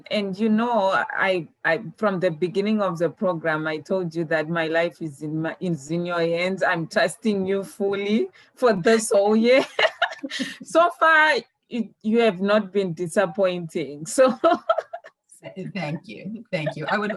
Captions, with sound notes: - And you know, I, from the beginning of the program I told you that my life is in your hands. I'm trusting you fully for this whole year. (both laughing) So far, you have not been disappointing. So (laughs) - Thank you. Thank you.